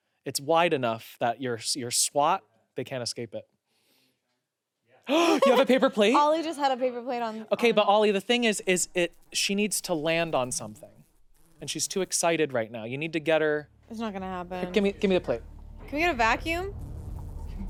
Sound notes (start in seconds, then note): 5.0 gasps